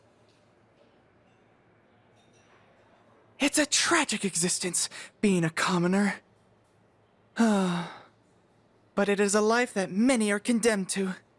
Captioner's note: dramatic sigh